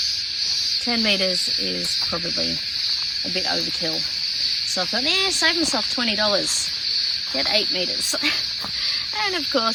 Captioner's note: laughs